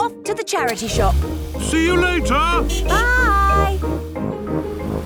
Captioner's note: honking